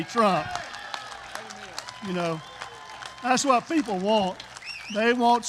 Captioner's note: applause